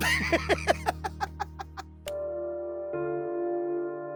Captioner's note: laughing and hands clapping